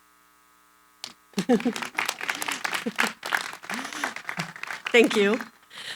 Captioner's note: applause